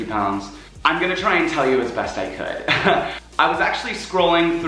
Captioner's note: laughs